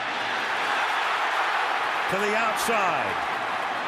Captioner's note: cheering